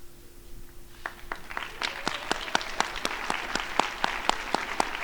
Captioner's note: crowd applauding